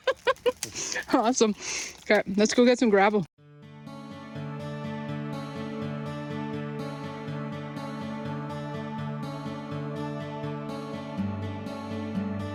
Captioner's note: laughs